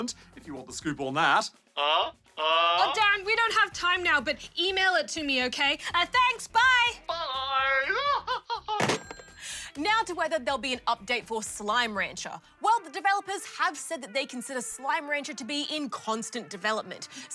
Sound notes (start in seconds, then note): 7.2 laughs